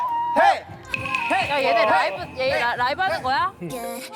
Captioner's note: skeptical sound effect